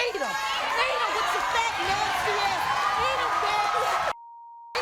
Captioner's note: cheering and clapping